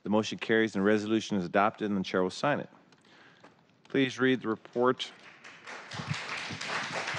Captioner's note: applause